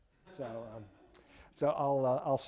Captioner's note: audience laughing